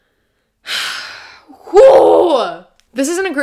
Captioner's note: sigh